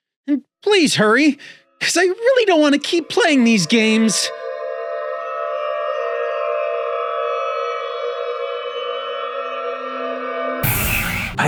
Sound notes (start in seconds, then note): 4.4 haunting ringing; 10.6 static hisses